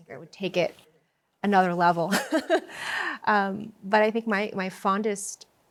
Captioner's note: chuckles